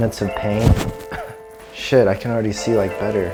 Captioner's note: cough